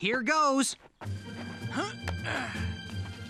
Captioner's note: grunts